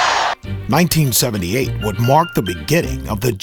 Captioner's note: voiceover